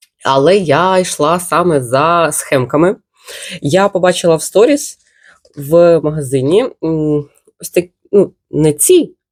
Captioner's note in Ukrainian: сопіння